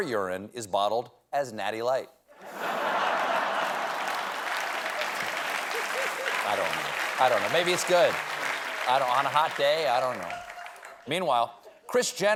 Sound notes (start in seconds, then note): 4.0 applause; 4.0 laughter